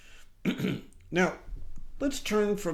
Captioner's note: clears throat